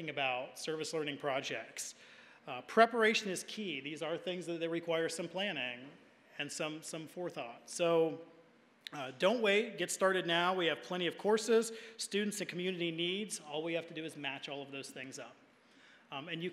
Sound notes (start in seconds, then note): none